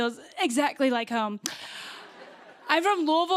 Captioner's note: laughter